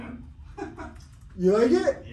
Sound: laughs

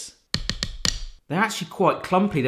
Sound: firm tapping

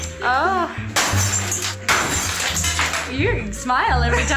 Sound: glass shatters

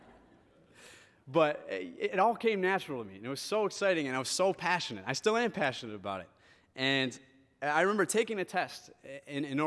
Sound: laughter

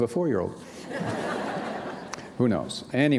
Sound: laughter

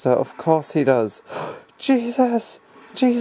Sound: gasp

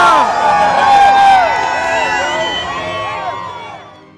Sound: crowd cheering

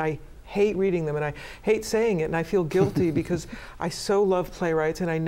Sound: laughter

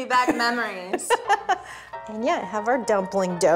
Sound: Melissa laughs

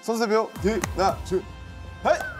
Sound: clap

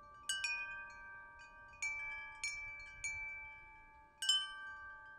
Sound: wind chimes chiming

